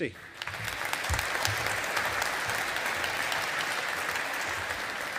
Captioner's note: audience applauding